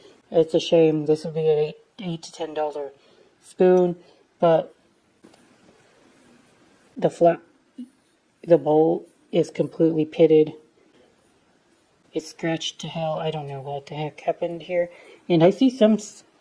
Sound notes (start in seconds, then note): none